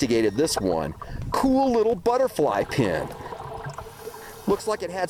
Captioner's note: beeping